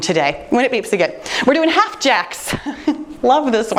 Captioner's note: laughing